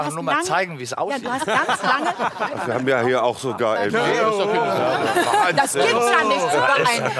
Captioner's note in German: Lachen